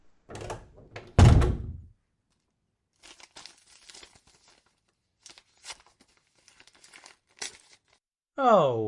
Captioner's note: door closes, envelope opens